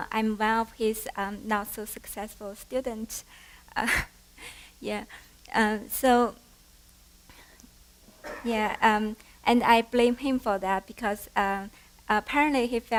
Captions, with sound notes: I'm one of his not so successful students. [LAUGHTER] Yeah. And I blame him for that because, apparently he